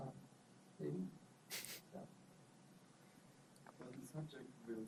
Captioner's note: laughs